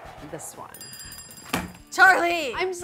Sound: bell rings

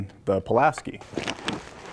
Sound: crunching

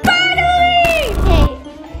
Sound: electric zapping

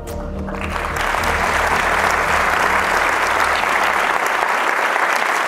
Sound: applause

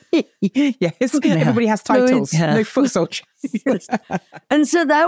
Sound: laughs

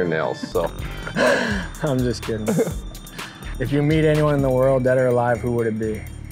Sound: laughing

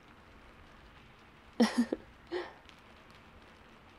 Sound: laughs

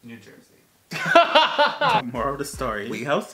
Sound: laughs

